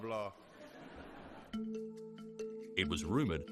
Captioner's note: audience laughs